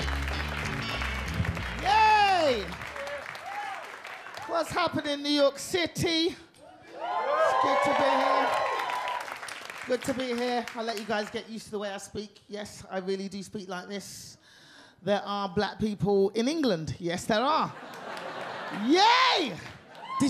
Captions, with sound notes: - Yay! What's happening, New York City? (audience cheer) It's good to be here. Good to be here. I'll let you guys get used to the way I speak. Yes, I really do speak like this. There are black people in England, yes there are. Yay!